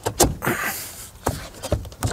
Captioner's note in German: Ächzen